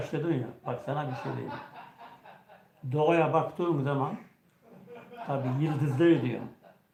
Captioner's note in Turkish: kahkaha